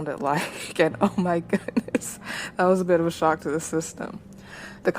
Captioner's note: laughs